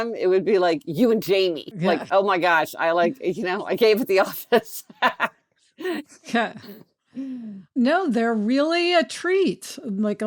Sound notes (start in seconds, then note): 3.9 laughs